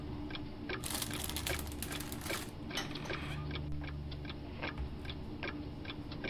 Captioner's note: bag rustling; coffee sloshing; clock ticking continues